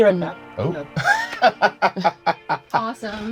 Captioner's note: laughs